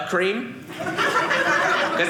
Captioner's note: audience laughing